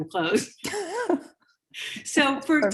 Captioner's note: both laughing